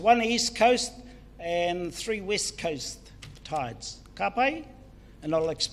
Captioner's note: foreign Language